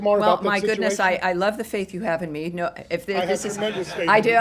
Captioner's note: laughter